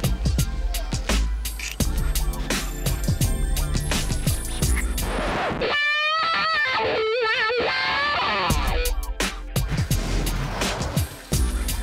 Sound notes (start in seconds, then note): 4.6 record needle scratching; 5.4 guitar solo; 9.2 funk music